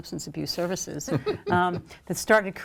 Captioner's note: laughs